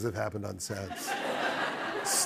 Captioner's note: laughter